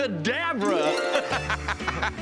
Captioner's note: laughs